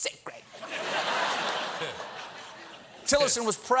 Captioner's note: laughter